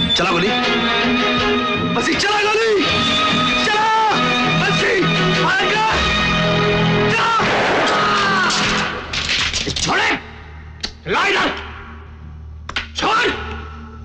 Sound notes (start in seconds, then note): 7.4 gunshot; 7.4 groans